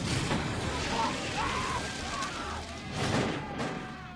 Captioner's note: burning soldiers screaming